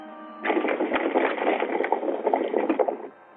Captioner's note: horses galloping